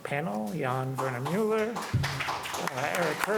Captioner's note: applause